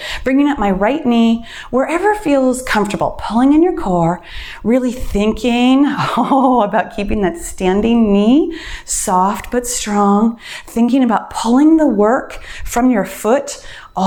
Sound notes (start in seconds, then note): 6.2 laughs